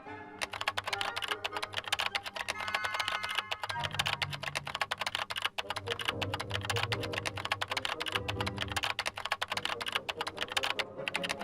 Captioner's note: keyboard clicking